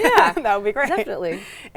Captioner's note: laughing